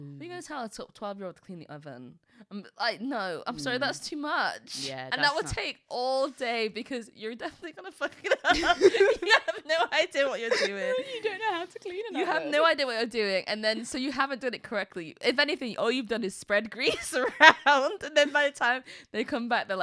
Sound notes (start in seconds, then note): 8.3 laughing